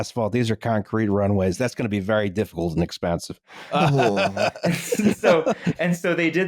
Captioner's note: laughs